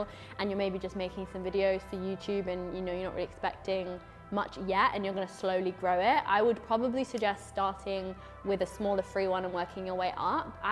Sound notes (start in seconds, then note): none